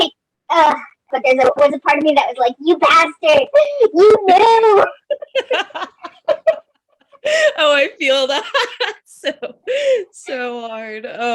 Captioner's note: laughs